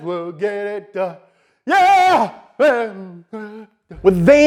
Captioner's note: humming